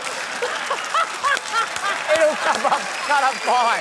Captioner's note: laughs